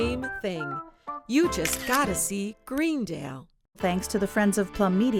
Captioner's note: camera snapping photo